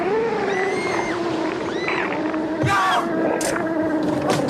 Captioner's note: screaming; roaring